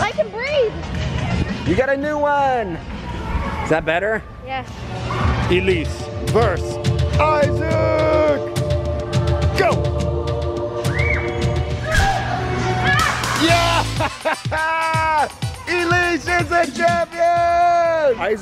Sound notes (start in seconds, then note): 12.8 screaming; 13.4 laughing